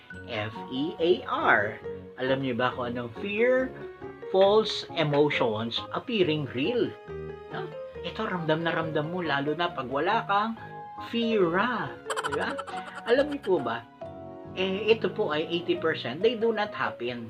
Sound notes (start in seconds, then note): 11.8 in pilipino - pera!